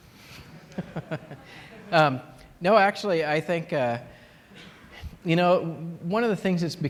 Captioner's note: laughter